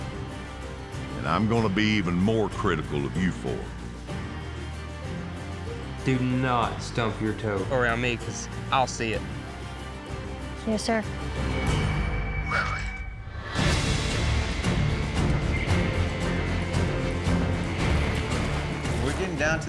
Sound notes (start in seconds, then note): 11.3 exhales